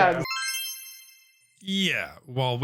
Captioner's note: quest tone ringing